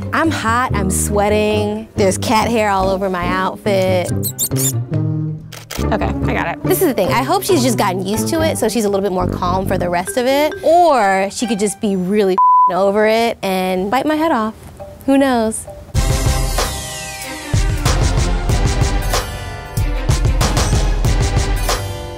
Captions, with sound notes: I'm hot, I'm sweating, there's cat hair all over my outfit. (squeaking) - Okay, I got it. - This is the thing, I hope she's just gotten used to it so she's a little bit more calm for the rest of it or she could just be really (beep) over it and bite my head off. Who knows? (intense music)